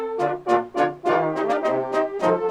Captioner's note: none